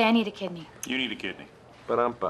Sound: imitating drum roll

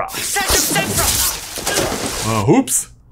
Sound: water splashing

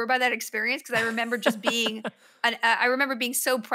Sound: laughs

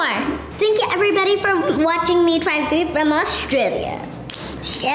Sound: snaps fingers

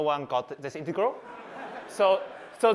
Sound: laughter

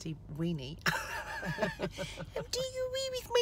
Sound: laughing

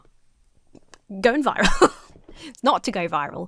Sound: laughs

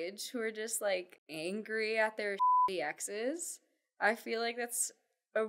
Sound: beep

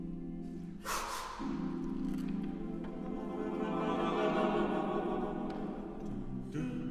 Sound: lip trill; inhale; exhale

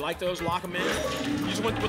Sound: lock sound

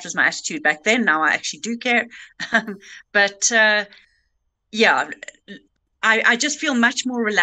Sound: laughing

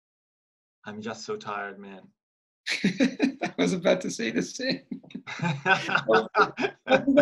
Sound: in English

